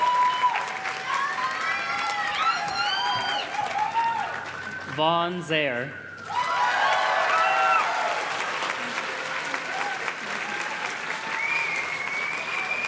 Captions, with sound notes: Vaughn Zayer. (audience cheers and claps)